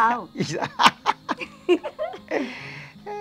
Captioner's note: both laughing